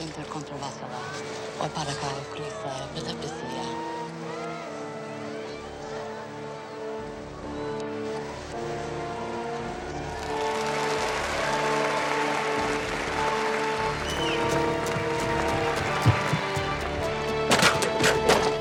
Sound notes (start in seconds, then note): 10.2 applause